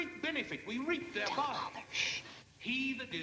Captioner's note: whispers